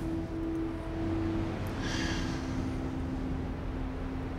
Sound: sighs

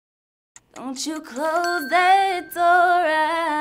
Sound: bell dings

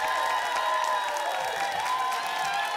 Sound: applause and cheering

